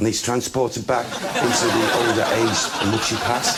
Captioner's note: audience laughs